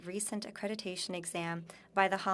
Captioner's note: speaking French